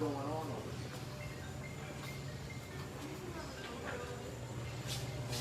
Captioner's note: phone ringing